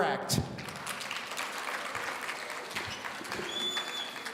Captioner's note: audience applauding